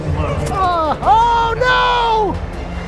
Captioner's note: grunts